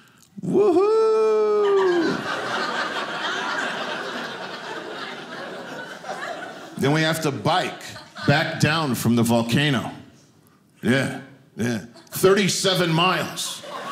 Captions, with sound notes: Woohoo! (audience laughing) Then we have to bike back down from the volcano. Yeah, yeah. 37 miles.